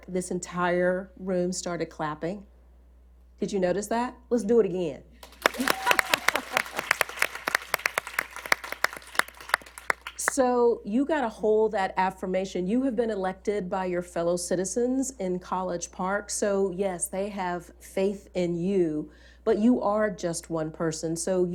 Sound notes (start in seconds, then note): 5.2 applause